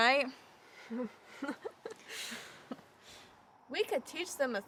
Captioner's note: Bailey laughs